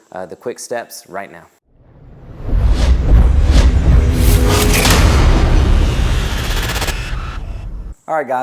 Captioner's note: sound effect